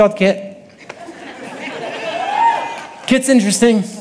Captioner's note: audience laughing